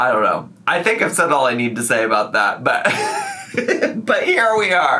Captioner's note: laughs